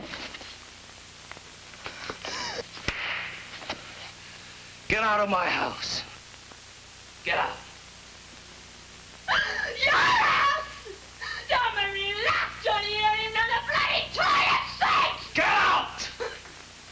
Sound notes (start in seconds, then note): 4.8 with intense anger; 9.2 screaming; 15.3 he shouts